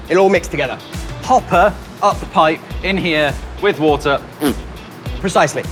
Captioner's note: rasps